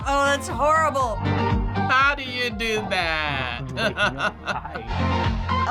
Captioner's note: laughing